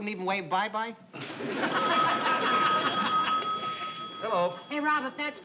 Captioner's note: phone ringing